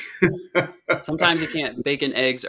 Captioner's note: laughing